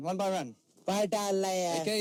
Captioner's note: foreign language